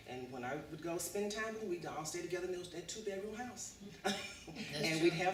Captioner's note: laughs